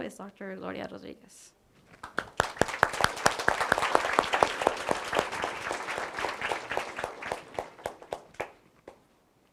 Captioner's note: applause